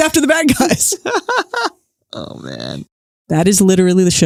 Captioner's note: laughs